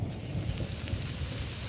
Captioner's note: rain